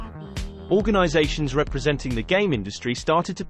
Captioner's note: robotic voice singing; british male voice